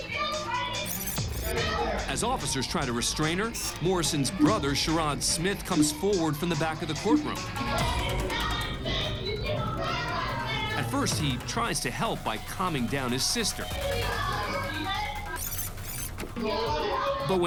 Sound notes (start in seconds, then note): 7.5 angry chatter; 13.7 angry chatter